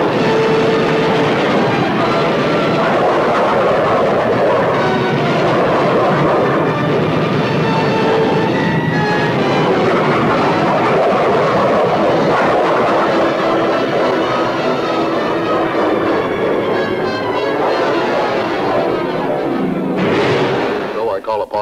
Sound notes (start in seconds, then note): 0.0 plane engines roaring; 0.2 explosion booming; 3.2 plane engine roaring; 4.7 explosion booming; 7.3 plane engines roaring; 20.1 water splashing